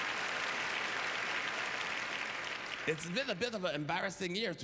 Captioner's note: applause